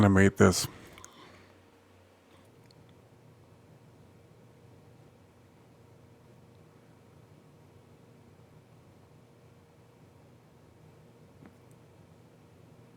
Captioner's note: silence